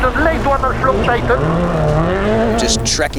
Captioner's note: engine revs